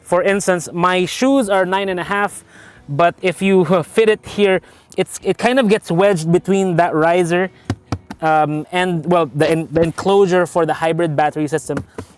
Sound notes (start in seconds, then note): 7.6 tap tap